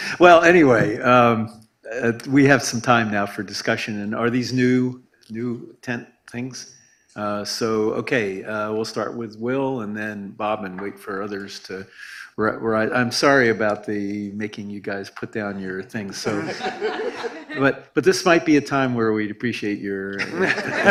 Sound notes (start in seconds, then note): 16.2 laughter; 20.1 laughter